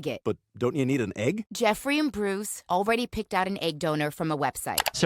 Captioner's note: none